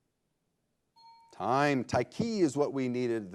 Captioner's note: bell chimes